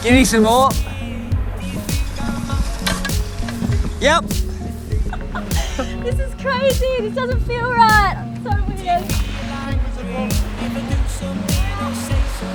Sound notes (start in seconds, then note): 5.8 laughing